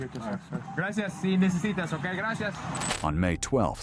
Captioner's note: officer speaking Spanish